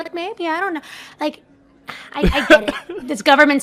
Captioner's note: laughs